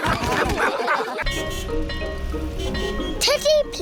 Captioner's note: all laugh; car horns beeping